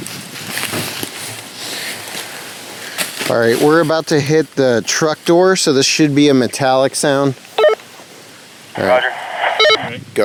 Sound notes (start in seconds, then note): 0.1 leaves crunching; 8.8 walkie talkie bleeps